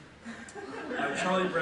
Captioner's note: audience laughs